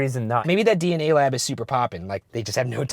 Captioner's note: voiceover